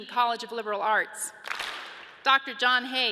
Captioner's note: audience claps